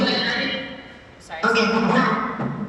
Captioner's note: voice echoes